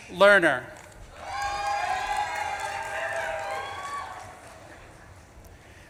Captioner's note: audience claps and cheers